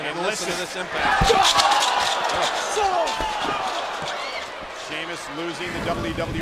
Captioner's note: applause